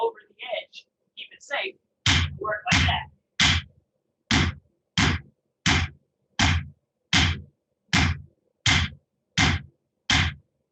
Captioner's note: hammering. Inaudible